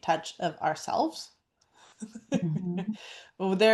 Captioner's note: laughs